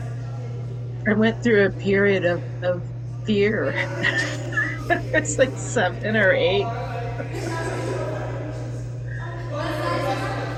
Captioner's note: laughs